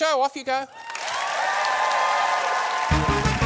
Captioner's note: applause